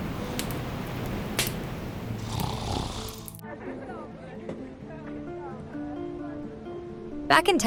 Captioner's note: Jack snoring